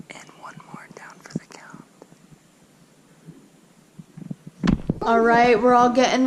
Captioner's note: whispers